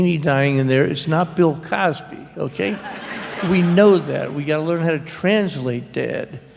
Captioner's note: laughter